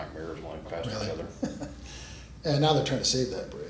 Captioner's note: laughs